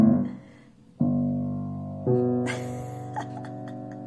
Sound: laughs

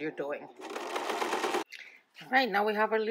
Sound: sewing machine clattering

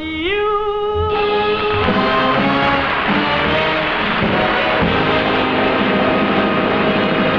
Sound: bombastic music; audience clapping

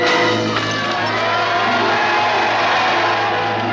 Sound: cheering

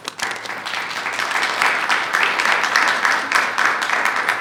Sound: attendees clapping

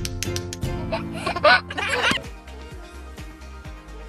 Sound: baby giggling; upbeat music

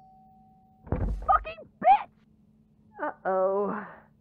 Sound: door slams open

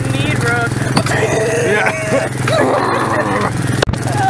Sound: inhuman screeching and sound effects

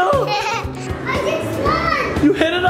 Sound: laughter

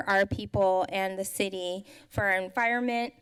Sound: none

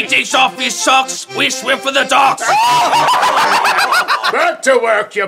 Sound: raucous laughter from the crew

